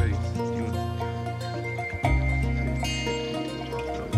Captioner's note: account in Spanish